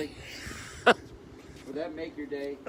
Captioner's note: laughter